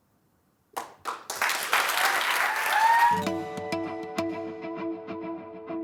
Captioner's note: applause